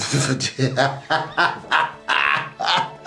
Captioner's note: laughs